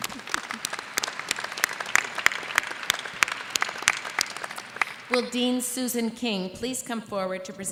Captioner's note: applause